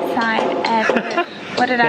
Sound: laughs

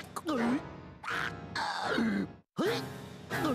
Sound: choking

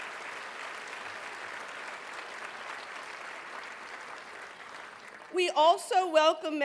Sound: applause

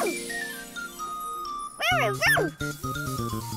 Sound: barking

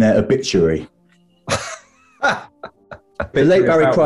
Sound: chuckling

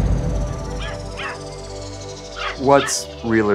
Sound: barking

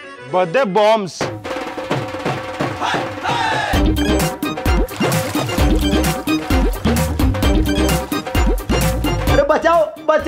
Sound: beating

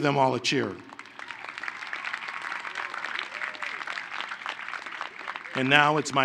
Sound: applause

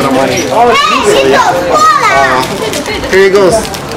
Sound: child shouts

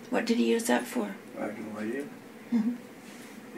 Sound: quietly

